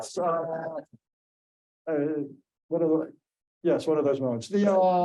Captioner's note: laughing